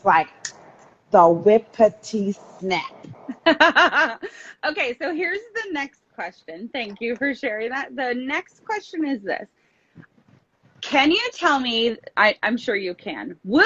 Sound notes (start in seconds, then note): 2.7 laughs